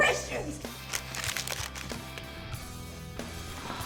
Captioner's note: sound of paper crumbled